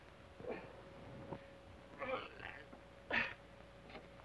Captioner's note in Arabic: يصرخ الشريف